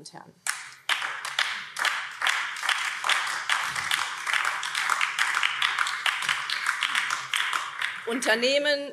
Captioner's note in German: Beifall BÜNDNIS 90/DIE GRÜNEN